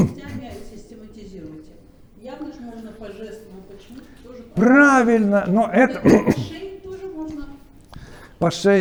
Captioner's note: chatting indistinctly